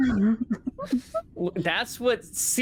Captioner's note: laughing continues